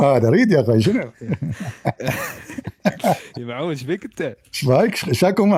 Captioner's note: Ketawa